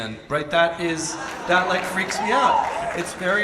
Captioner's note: audience applauds and cheers